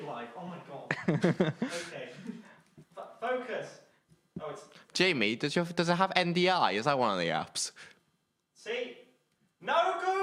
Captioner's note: laughing